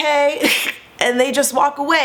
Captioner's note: laughing